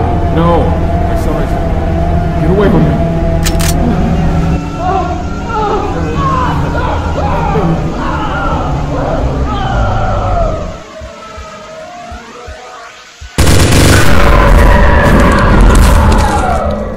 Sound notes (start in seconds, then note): 3.4 gun Click